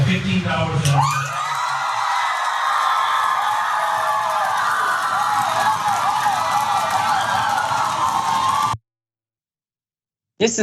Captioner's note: applause